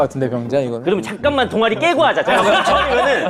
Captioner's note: scrambling